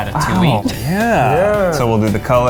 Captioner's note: laughing